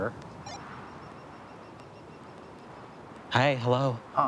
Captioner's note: phone bleeping